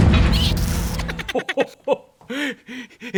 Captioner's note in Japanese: トロール笑い